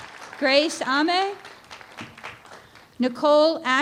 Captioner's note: applause